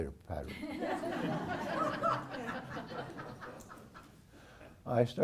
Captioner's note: laugh